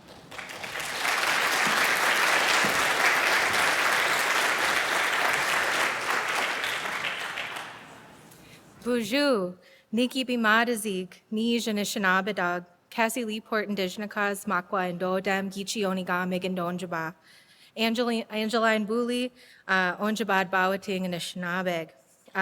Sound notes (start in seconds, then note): 0.0 audience applauding; 8.8 speaking Ojibwe